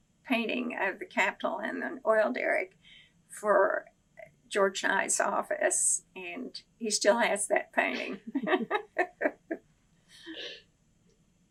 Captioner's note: laughs